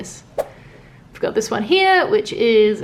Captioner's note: swooshing